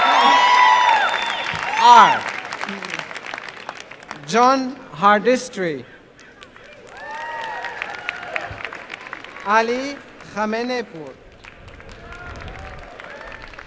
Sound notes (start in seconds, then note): 6.2 applause